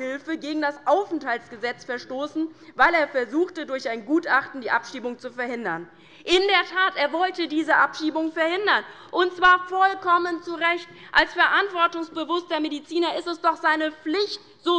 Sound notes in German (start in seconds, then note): none